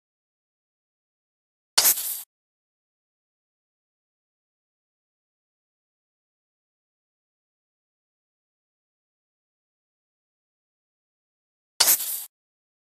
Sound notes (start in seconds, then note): 1.8 creeper sound